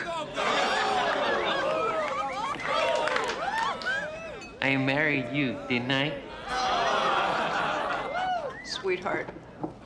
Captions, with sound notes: (groans and cheers) - I married you, didn't I? (laughter) - Sweetheart,